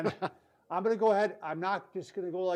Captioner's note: laughs